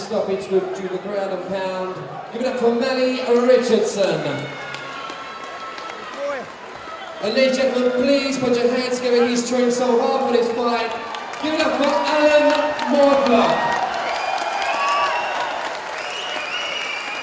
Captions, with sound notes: by referee stoppage due to the ground and pound, give it up for Mali Richardson. (crowd cheers) And ladies and gentleman please put your hands together and he's trained so hard for this fight, give it up for Alan Mortlock. (crowd cheers)